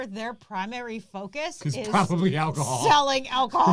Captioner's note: laughs